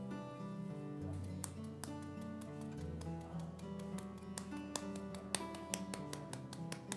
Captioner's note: soft slapping sound